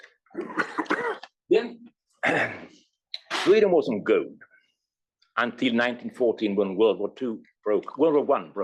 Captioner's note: cough